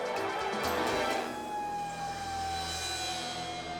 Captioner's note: sirens wail